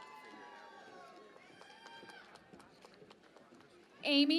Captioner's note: cheering and Applause